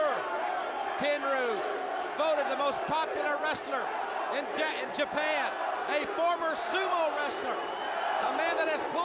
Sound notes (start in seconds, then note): 5.2 crowd cheering